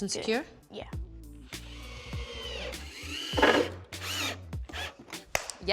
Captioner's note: whirring